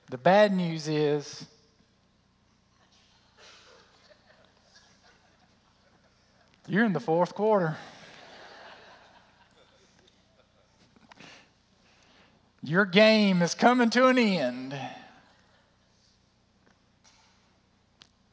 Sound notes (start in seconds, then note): 2.8 laughter; 10.0 laughter